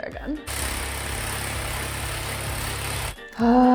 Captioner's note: machine whirring